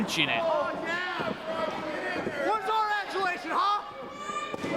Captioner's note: crowd clamoring